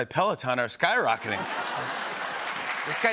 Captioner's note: laughter